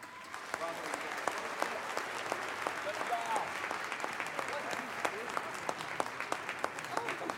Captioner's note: applause